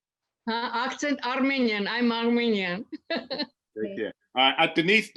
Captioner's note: laughs